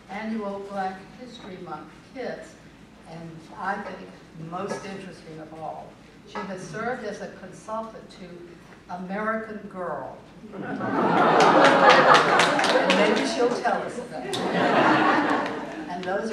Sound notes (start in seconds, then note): 10.5 laughter